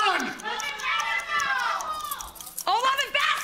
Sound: audience shouting

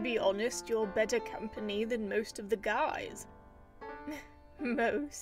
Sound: chuckle

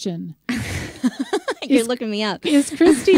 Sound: laughs

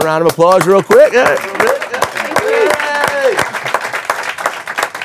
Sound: audience clapping

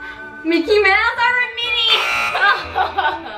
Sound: buzzer beeps; laughs

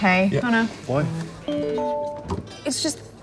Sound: phone alerting

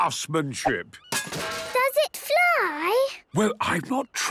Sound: distant clanging

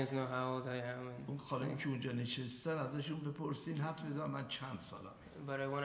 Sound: speaking in farsi

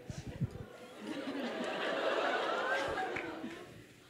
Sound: crowd laughing

